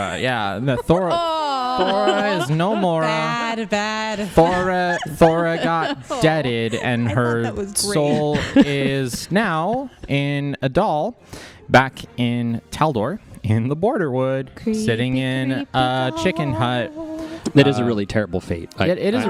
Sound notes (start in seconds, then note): 0.4 laughter; 4.2 laughs; 16.8 sing-song